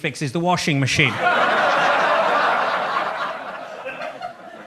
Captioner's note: audience laughs